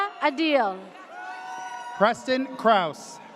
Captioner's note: audience cheers